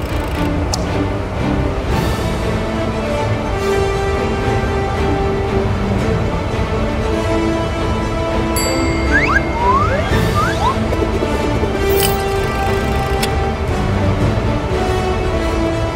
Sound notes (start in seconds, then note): 0.0 helicopter blades turning; 0.0 crank winding; 2.3 heroic music; 8.6 bell dings; 10.3 hook spins rapidly in air; 11.9 crank winding